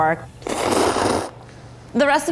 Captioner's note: slurping